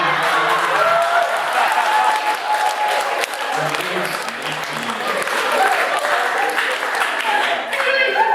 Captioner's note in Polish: Aplauz